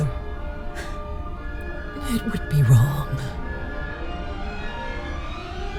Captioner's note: gasp; music swells